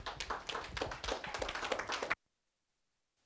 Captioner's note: applause